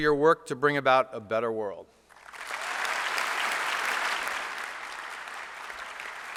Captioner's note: applause